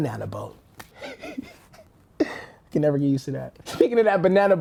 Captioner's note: laughs